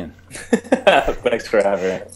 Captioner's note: laughing